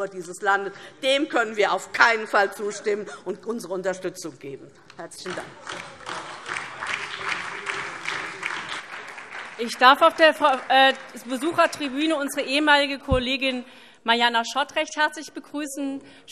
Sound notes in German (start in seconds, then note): 3.5 Beifall DIE LINKE, vereinzelt BÜNDNIS 90/DIE GRÜNEN und SPD - Zurufe AfD